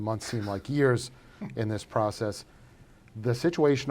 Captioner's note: chuckles